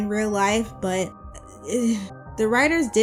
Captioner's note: confused stammering